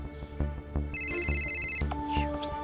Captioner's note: phone ringing